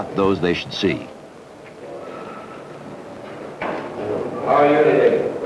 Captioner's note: indiscriminate chatter